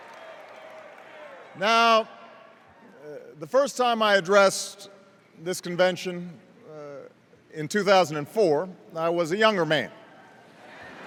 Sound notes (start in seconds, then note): 3.5 extended cheers and applause